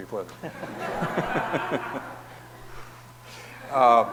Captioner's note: audience laughing